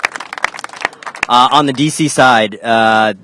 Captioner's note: applause